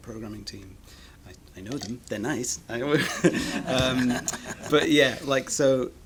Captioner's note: scattered laughter